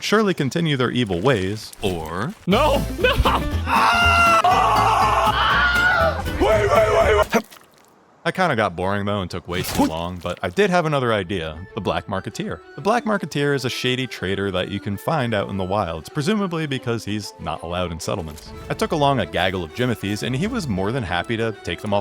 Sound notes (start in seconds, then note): 3.6 screaming; 3.6 Wilhelm scream